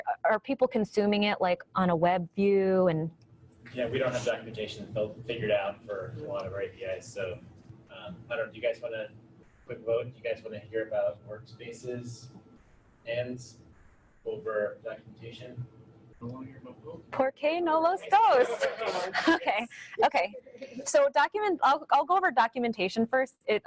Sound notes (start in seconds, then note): 17.5 speaks a foreign language; 18.1 audience laughing